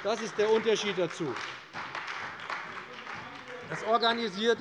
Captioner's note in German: Beifall bei der CDU und dem BÜNDNIS 90/DIE GRÜNEN - Zurufe von der SPD und FDP